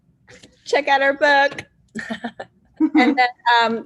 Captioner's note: laugh